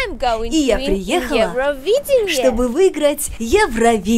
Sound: pronounced with a Belarusian accent

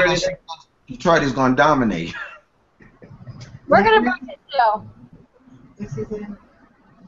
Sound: laughter

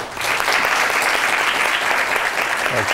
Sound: applause

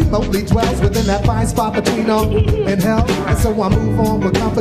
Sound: beep

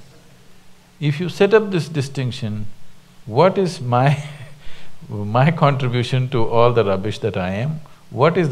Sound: laughs

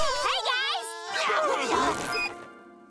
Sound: screaming

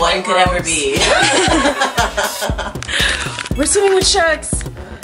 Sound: laughter

